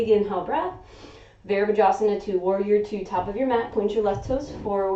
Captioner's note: inhaling